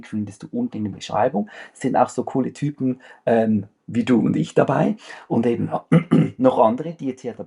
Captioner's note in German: räuspern